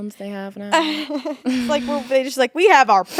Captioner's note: laughing